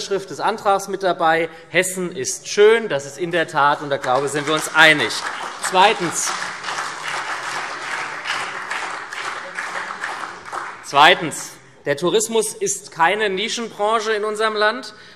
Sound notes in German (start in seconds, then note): 5.5 Beifall SPD, CDU, BÜNDNIS 90/DIE GRÜNEN und Freie Demokraten